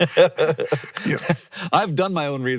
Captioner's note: laughing